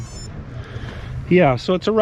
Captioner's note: digital beeping